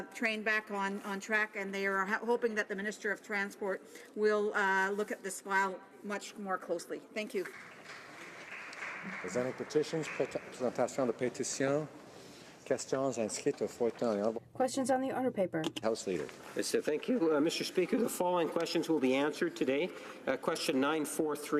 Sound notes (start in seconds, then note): 16.8 speaking French